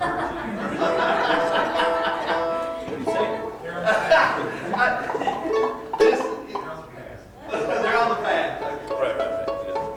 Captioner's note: laughter